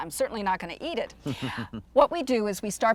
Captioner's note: chuckles